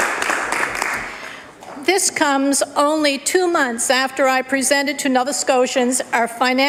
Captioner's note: applause